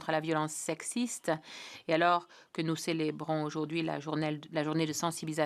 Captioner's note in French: voix de l'interprète